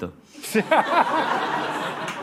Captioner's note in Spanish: Risas